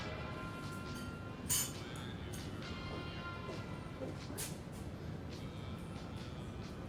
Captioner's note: silverware clinking